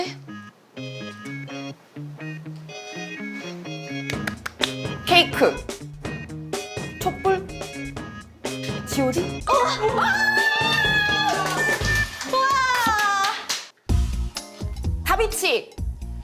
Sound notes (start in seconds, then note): 3.0 blows; 4.1 clap clap